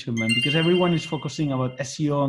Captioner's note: notification sounds